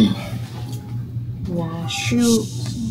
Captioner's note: more fake Chinese